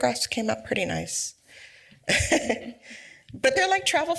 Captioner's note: laughs